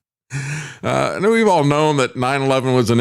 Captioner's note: laughs